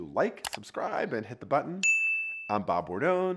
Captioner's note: keyboard clicks; bell rings